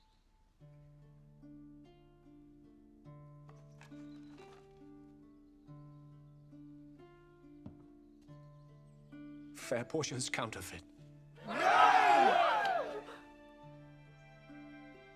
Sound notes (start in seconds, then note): 11.4 cheering